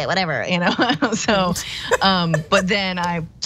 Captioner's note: laugh